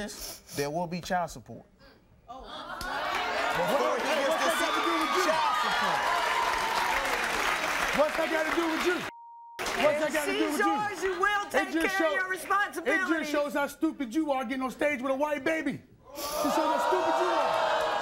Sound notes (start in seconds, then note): 6.8 audience applauding